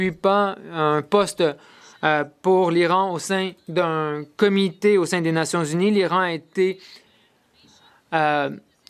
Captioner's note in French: voix de l'interprète